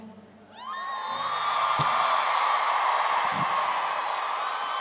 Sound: crowd cheering

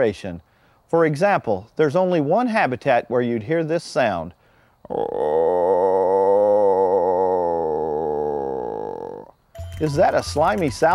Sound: wildlife call

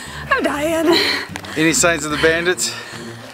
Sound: laughs

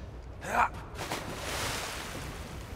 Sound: Joel grunts; water splashes

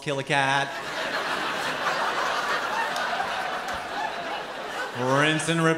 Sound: laughter

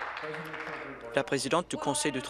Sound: applause

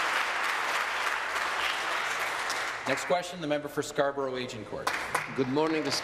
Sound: applause

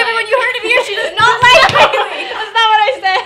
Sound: fist banging; laughing

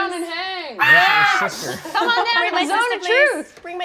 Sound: screeching

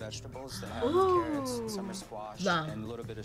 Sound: gasps

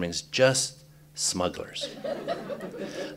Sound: laughter

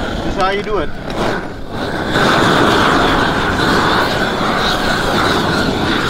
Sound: air whooshes against plastic

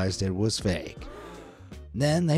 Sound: audience gasps

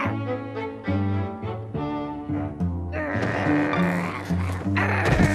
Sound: playful growling

